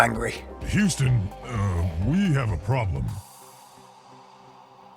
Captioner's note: voiceover